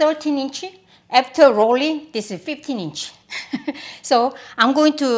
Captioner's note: laughs